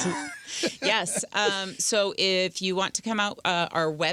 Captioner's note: laughing